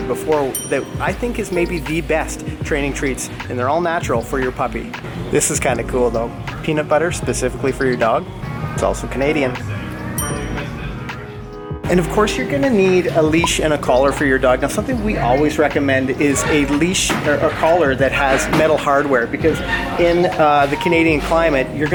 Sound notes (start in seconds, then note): 10.1 bell dings